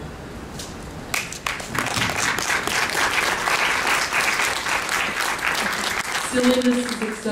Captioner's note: applause